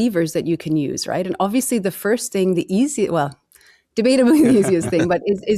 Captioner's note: laughs